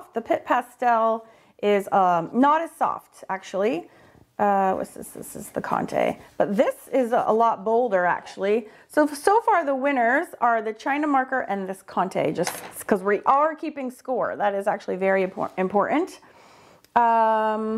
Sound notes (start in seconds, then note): none